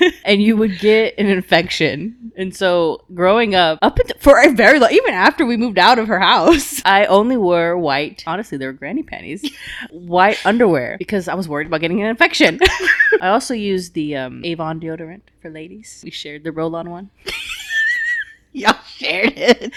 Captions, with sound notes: I was worried about getting an infection. I also used the Avon deodorant for ladies. We shared the roll on one. (laughing) - Y'all shared it.